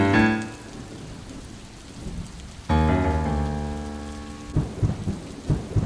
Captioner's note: eerie suspenseful music; rain continues pattering; thunder rumbles